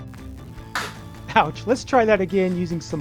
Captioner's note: lander thuds